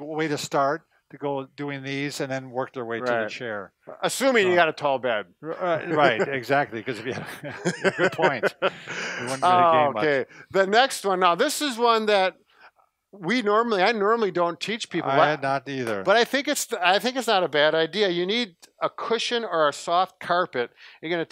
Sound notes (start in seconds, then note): 6.8 both laugh; 6.8 chuckles